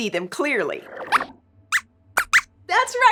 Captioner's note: squeaks squeaks